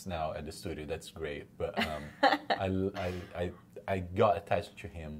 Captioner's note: laughs